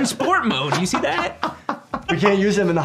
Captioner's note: laughing